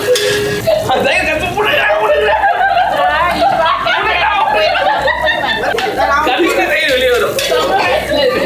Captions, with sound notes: Making fun of each other, ( laughing ) ( laughing ) Then the curd will come out.